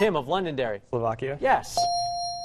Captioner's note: dinging